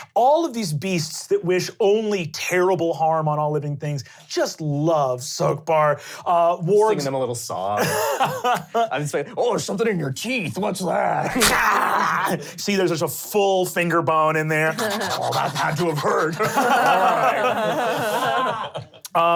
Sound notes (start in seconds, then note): 11.0 snarling; 14.7 panting; 16.9 laughing